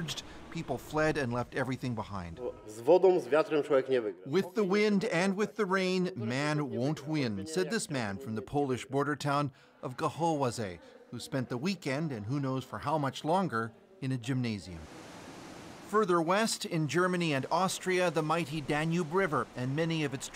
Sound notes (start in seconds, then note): 4.6 speaking alternate language